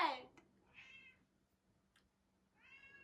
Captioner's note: meows